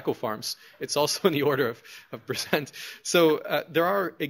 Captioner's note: laughs